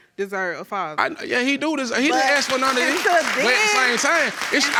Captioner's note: audience applauding